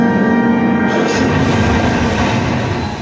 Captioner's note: explosion sounds